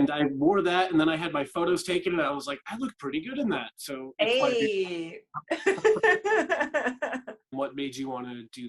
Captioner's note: laughter